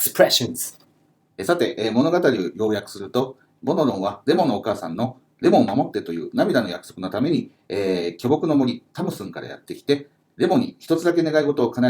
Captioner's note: speaking Japanese